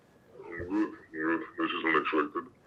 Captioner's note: altered male voice